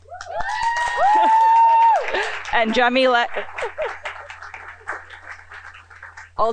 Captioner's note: applause